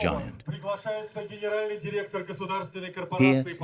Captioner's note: Russian spoken language